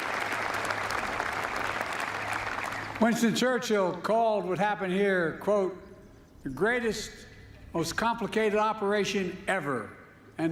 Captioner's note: applause